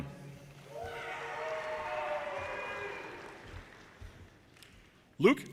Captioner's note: audience cheers and applause